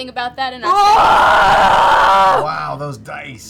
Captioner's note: yells wordlessly